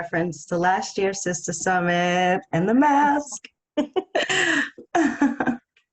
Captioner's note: laughs